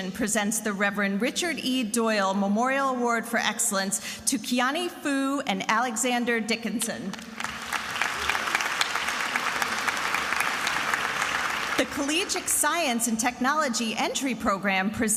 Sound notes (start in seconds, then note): 7.1 attendees applauding